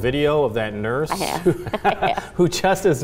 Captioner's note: laughs